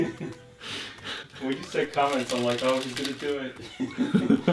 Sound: both laughing; pitter-patter; both laughing

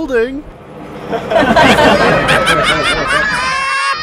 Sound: laughter

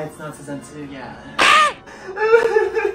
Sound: crying; screaming

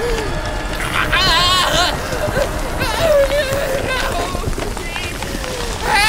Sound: filmer wailing; ominous music; dirt splatters

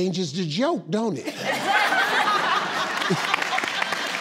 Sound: laughing

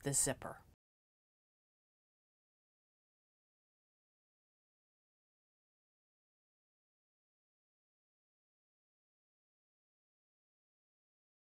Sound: no Sound Present

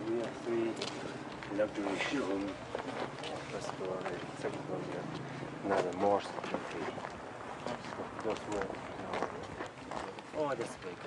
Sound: talking in Tibetan

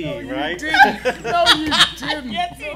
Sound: laughing

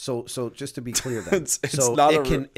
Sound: laughter

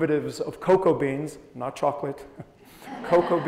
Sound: audience chuckles

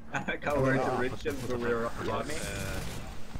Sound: the retard mumbling

